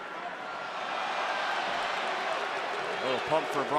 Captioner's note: crowd cheering